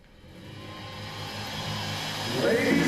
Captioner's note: cheers and applause